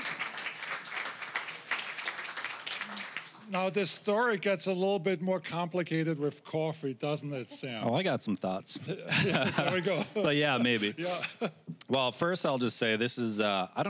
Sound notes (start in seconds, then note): 0.0 applause; 8.7 all laughing